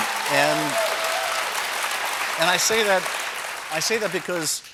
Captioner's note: cheers and applause